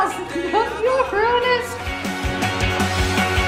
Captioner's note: giggles; upbeat music